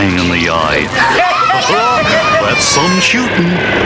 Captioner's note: all Cheering